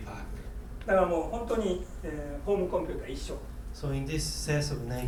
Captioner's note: speaking in foreign language